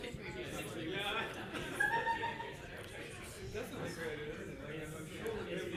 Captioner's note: participant laughs